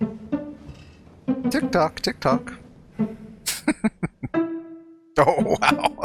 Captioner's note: chuckling